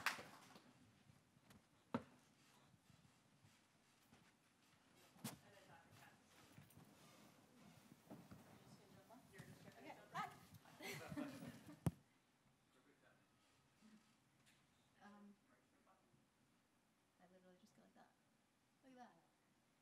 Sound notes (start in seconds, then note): 8.7 speaks faintly; 10.7 laughs